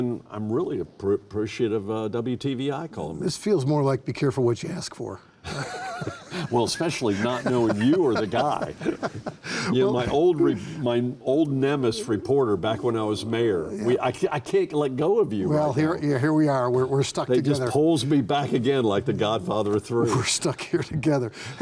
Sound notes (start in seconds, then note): 5.4 laughing